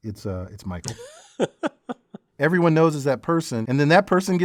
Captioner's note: laugh